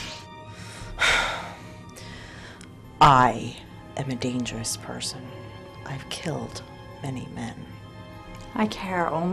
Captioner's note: sigh